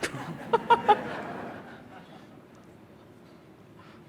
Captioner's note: laughing